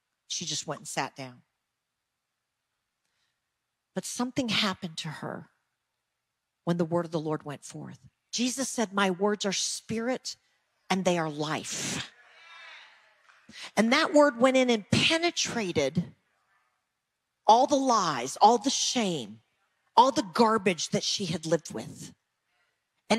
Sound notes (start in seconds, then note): none